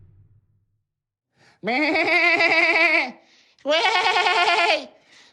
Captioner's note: eerily realistic goat sounds